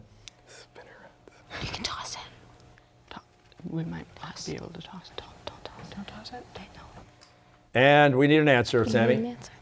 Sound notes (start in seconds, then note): 0.4 whispering